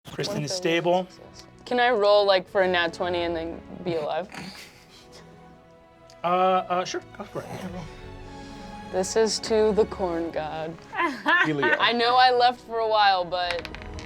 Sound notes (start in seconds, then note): 4.3 cast laughing; 7.9 soaring violin music; 10.9 laughing; 13.4 dice clacking